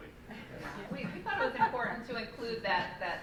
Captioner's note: laughing